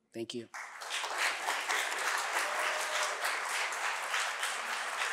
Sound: audience applauding

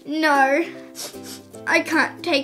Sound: sniff, sniff

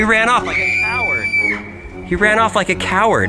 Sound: high pitched scream

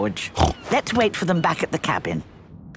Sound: George snorts; snorts

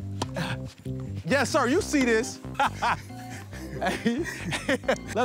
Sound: laughs

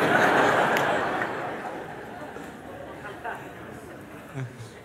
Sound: laughter

